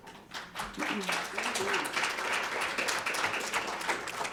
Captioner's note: audience applauding